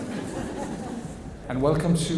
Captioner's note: audience laughs